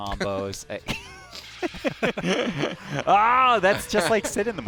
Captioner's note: laughter